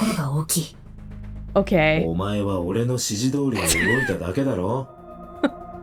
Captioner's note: chuckles